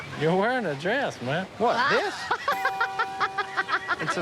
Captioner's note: woman laughing